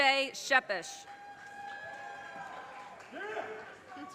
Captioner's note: audience cheers and applause